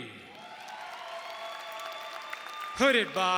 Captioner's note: audience cheering and applauding